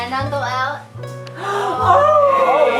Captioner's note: gasps